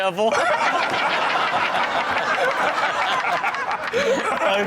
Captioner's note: everyone laughs